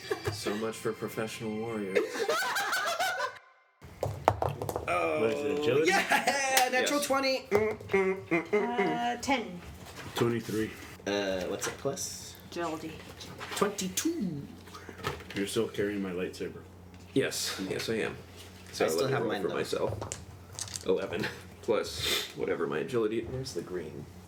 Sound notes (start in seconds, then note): 1.9 laughter; 3.9 dice roll; 8.0 sings